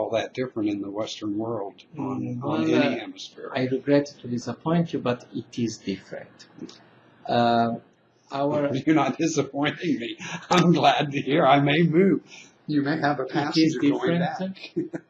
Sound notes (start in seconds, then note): 8.5 laughing